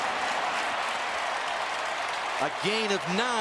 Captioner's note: cheering